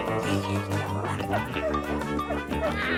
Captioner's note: dog howling; dog barking